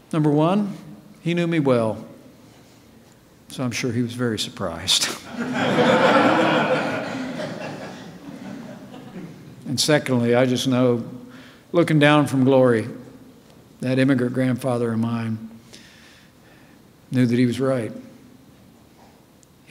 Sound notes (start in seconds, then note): 5.2 laughter